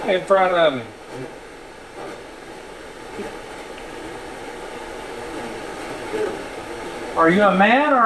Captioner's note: static sound